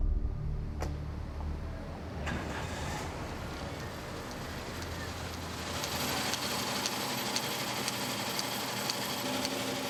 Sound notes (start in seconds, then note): 1.7 car engine starts; 5.2 machine whirring